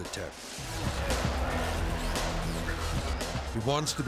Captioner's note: energetic music; crowd shouting